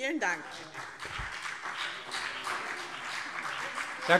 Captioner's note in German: Beifall BÜNDNIS 90/DIE GRÜNEN und CDU